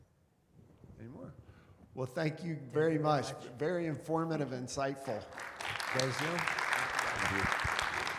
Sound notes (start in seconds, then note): 5.0 attendees clapping